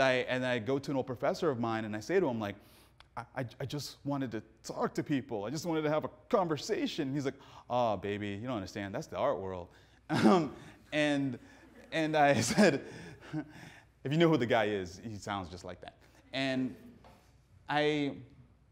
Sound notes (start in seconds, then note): 10.7 audience laughing; 11.7 laughs